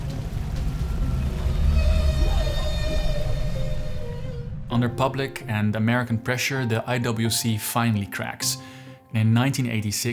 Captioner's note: waves crashing